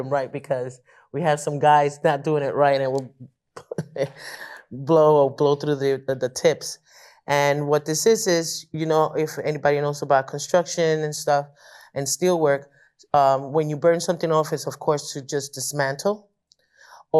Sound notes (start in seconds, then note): 3.4 laughs